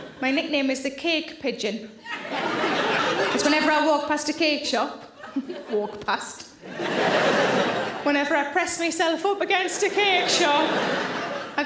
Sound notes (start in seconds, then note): 2.0 audience laughs; 6.6 audience laughs